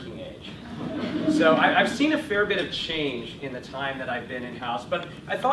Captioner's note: chuckle